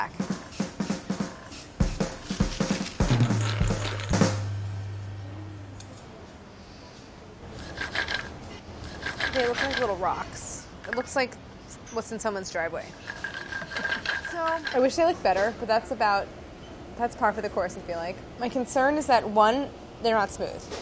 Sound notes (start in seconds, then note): 0.1 airbrush sprays; 3.7 candies grinding